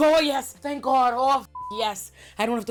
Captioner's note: beep